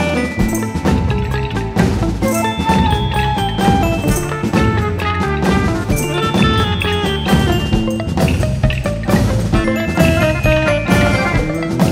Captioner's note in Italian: Applauso